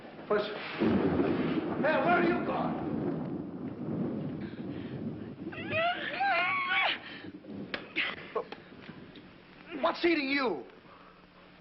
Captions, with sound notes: Hey, where are you going? [mumbling incoherently] What's eating you?